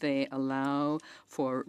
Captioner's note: speaking French